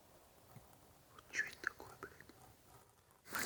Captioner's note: whispering